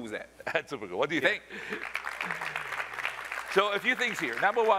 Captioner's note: applause